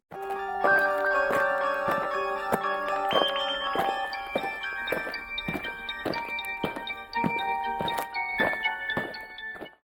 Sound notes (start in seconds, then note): 0.1 eerie music; 5.1 aliens marching